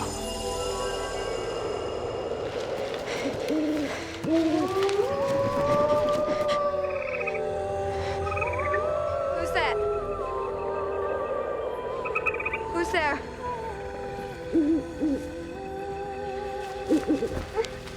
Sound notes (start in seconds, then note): 3.4 owl hooting; 3.4 wolves howling; 14.7 owl hoots